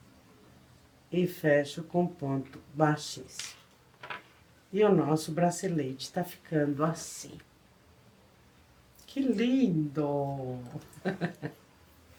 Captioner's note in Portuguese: risadas